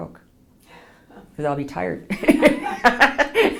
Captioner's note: laughs